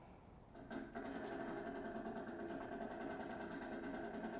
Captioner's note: gears churning